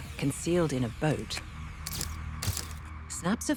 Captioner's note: camera clicking